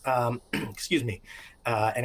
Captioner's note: clears throat